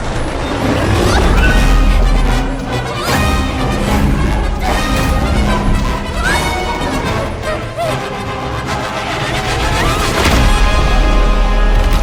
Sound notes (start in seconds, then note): 0.0 panting; 0.6 Kaufmo roars; 0.9 yelps; 1.9 shouting, panting; 4.2 dramatic music plays